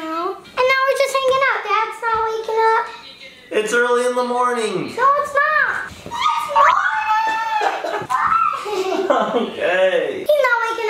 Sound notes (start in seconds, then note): 6.4 yelling